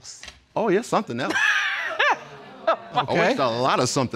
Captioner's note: judge dana laughing